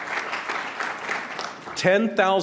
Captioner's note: applause